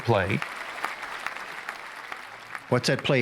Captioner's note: audience clapping